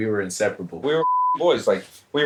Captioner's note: beep